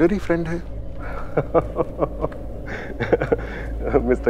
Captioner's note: Udayan laughs